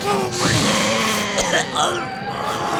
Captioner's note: growling; coughing